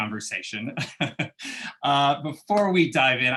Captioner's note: laughter